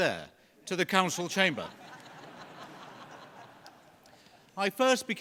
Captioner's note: laughter